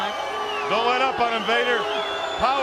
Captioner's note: crowd chatter